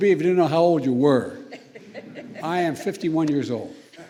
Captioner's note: laughter